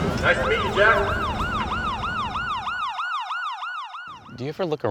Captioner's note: police Siren Whirs